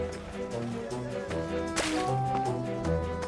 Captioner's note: splash